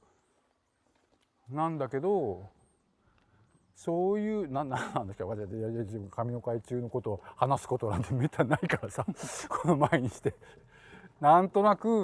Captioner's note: laugh